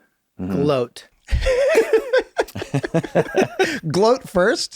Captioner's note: group laughs